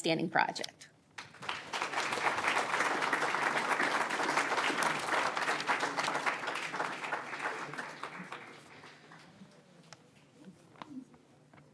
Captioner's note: applause